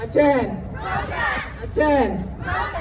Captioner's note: crowd